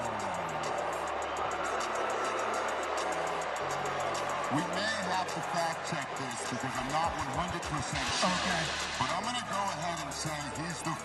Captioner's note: booing